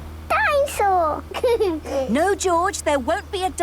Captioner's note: giggles